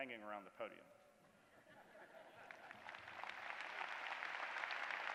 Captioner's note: applause